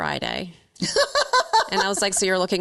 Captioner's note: laughing